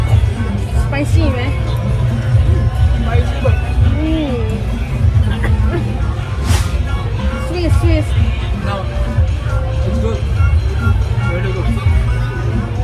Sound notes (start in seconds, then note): 5.1 coughs